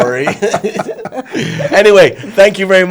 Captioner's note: all laughing